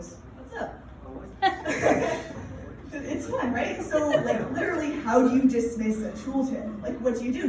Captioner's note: laughter